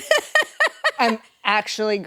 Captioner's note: laughs